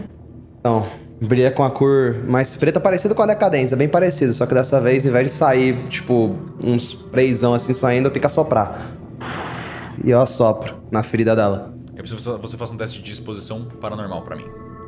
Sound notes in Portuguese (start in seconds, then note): 9.0 sopro